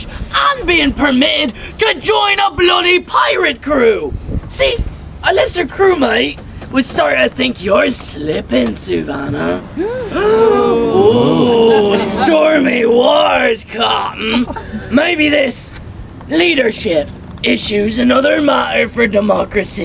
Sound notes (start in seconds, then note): 9.4 audience gasping; 9.7 gasps